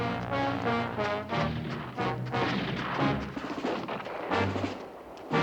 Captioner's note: gunfire continues